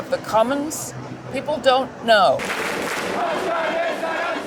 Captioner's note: crowd protesting